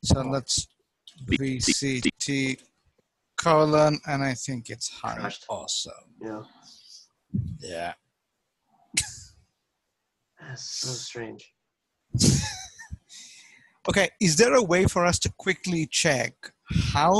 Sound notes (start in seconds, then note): 9.1 laughs; 12.4 laughs